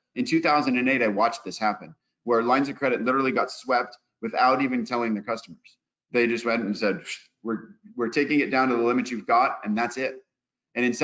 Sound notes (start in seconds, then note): 7.3 blows